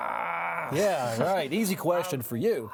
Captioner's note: groaning